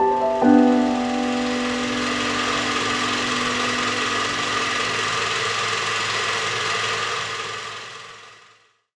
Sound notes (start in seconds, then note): 0.3 film reel whirring returns; 5.6 whirring fades out